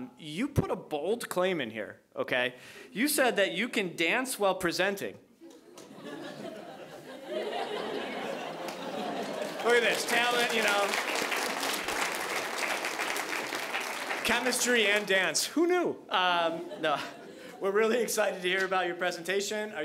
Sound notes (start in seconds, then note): 5.4 audience laughing; 10.9 audience applauding